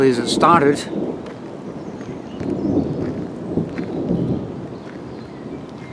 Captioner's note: rumble of thunder